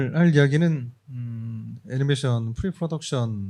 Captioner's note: speaking korean